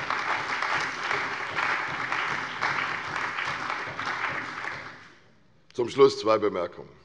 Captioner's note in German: Beifall bei der CDU und dem BÜNDNIS 90/DIE GRÜNEN